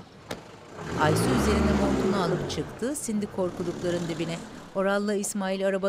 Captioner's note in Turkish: Araba sesi